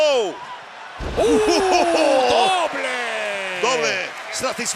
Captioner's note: laugh